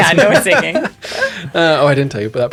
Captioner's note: laughter